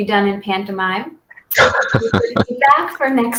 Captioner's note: laughter